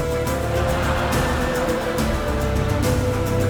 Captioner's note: laughs